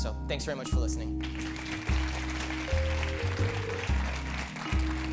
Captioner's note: applause